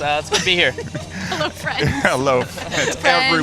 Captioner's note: laughingly